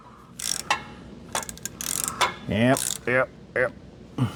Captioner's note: metal Clanking